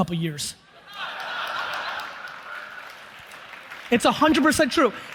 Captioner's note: audience applauds